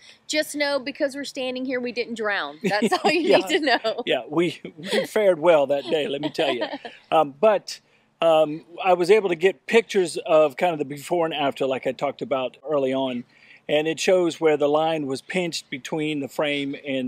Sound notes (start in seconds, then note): 2.6 laughs